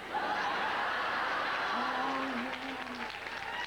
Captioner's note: laughter